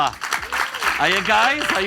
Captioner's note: audience applauds